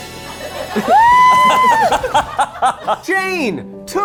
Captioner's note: laughs